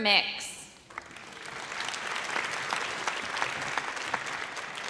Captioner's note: audience applauds